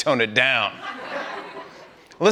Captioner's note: laughter